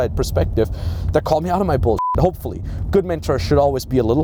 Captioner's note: beep